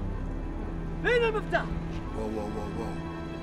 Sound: speaking foreign language

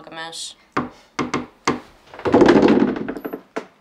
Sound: knock at the door. It’s Perry

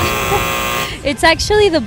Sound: buzzer buzzing

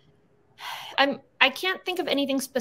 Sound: sighs

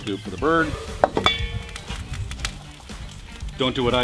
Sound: metal clashing

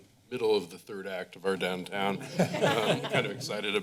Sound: laughter

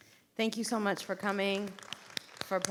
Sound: applause

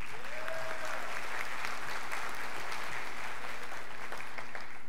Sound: scholars applauding

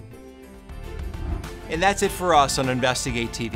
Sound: upbeat music; whooshing

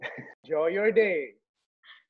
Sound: laughs

